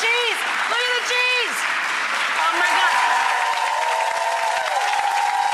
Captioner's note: audience applause